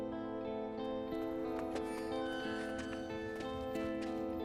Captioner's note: door opens